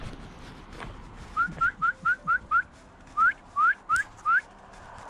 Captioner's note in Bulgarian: подсвирква